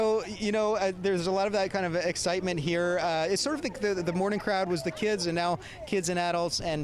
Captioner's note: cheering